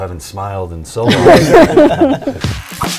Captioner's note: laughter